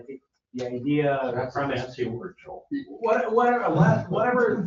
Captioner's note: overlapping chatter